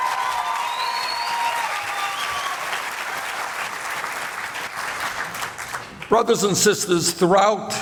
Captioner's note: loud applause